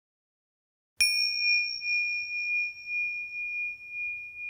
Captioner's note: bell dings